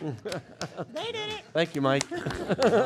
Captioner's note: applause